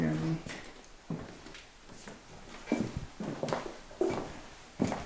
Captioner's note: footsteps